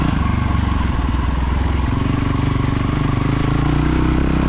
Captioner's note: tires screeching